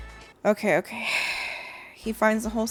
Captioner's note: sighing